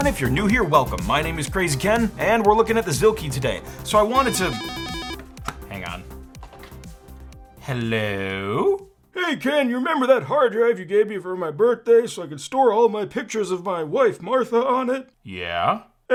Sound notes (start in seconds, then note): 4.0 phone ringing